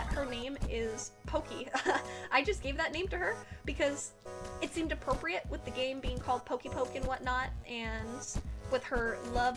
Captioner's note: chuckles